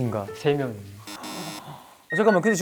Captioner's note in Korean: 삐빅